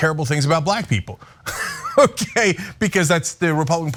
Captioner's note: laugh